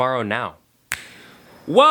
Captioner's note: magic snap